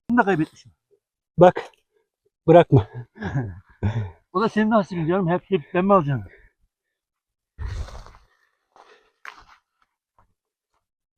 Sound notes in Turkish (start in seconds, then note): 2.8 kahkaha; 7.6 homurdanır